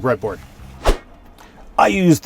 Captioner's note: whoosh